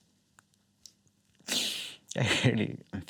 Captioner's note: inhales